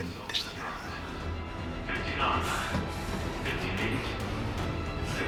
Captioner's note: over intercom